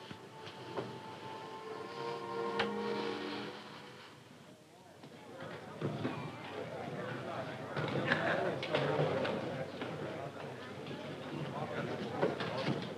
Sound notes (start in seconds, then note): 5.2 crowd chattering